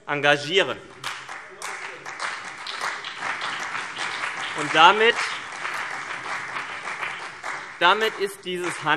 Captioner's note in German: Beifall CDU und BÜNDNIS 90/DIE GRÜNEN